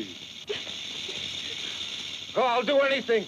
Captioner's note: snake rattles